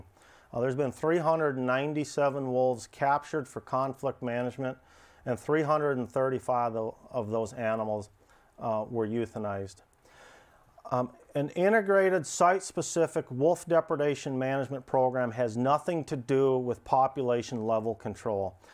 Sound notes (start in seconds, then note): none